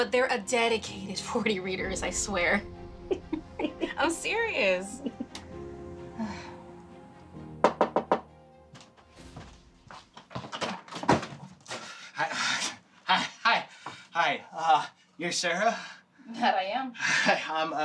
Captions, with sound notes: But they're a dedicated 40 readers, I swear. (roommate laughing) I'm serious. (knocking on door) - Hi. Hi. Hi. Hi. You're Sarah? - That I am.